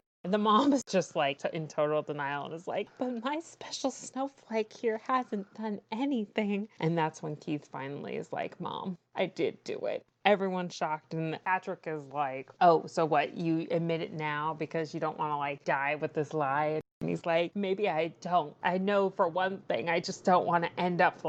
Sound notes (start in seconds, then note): none